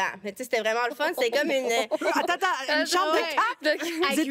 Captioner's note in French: rires